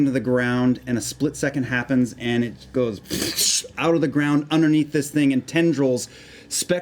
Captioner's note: electric sound